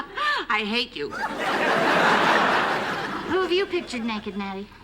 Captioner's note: laughs; laughter